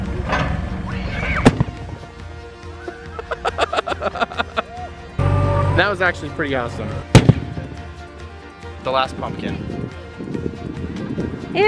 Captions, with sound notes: (exploding) (laughing) - That was actually pretty awesome. (exploding) The last pumpkin.